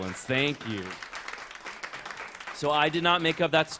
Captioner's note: applause